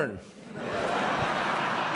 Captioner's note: laughter